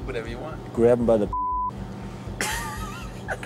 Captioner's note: laughing